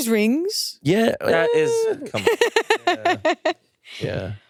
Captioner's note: laughs